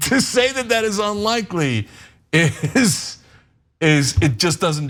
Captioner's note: laugh